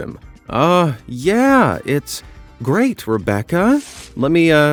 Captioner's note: in false enthusiasm and pride